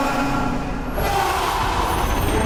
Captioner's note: yelling